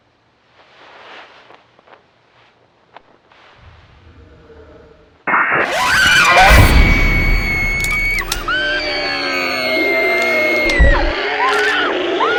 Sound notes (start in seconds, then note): 8.4 howling; 10.1 crunching